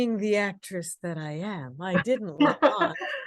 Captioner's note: laughter